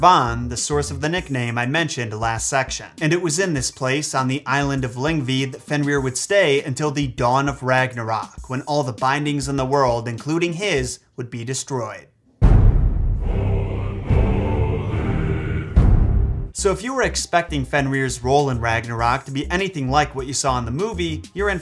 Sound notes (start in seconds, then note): 12.4 drums thundering; 13.2 men chanting in foreign language